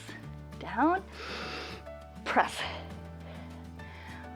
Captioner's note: inhales